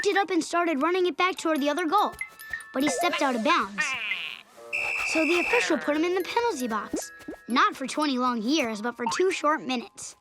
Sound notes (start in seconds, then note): 4.7 whistle blowing